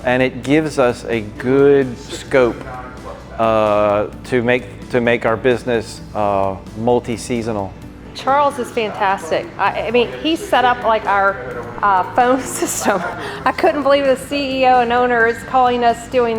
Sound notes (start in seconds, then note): 12.0 laughs